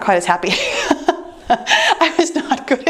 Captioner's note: laughing